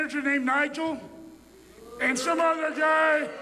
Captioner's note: crowd booing